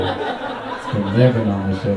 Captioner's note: audience laughing